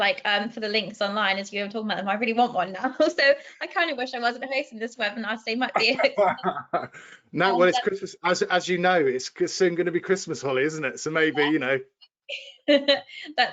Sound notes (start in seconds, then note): 5.7 laughing